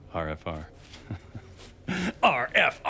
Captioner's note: laughs